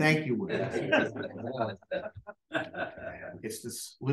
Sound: laughter

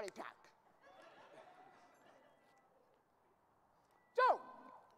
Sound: audience laughing

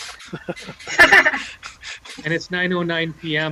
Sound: panel laughs

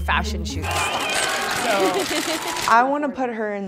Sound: camera clicking

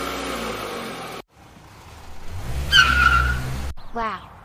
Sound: FX - Car Starting; FX - Car Squeal; ambience - County Highway

